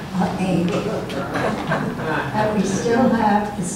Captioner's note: audience laughs